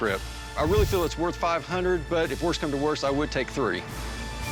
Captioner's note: none